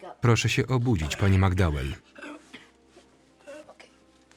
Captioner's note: coughing